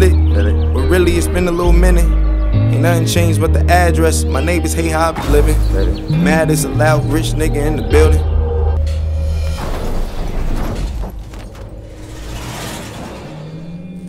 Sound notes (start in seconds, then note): 8.9 car crashing